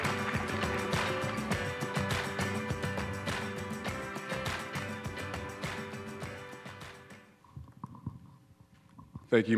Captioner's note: applause